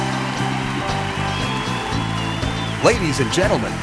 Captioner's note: cheering